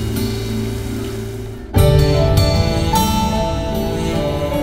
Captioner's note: Door opens